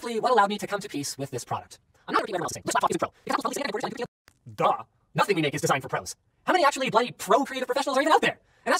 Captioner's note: fast talking